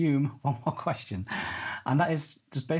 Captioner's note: chuckles